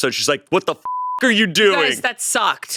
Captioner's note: beep